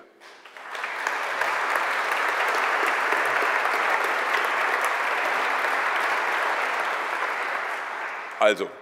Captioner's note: applause